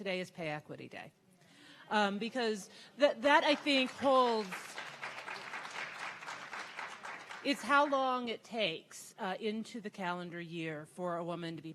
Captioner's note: audience clapping